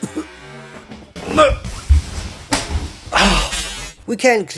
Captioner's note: cough